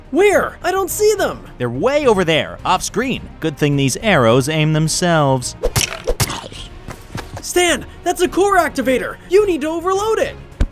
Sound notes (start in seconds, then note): 5.6 arrows fly